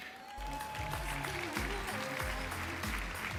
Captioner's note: applause